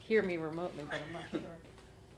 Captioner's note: laugh